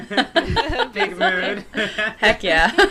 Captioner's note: laughter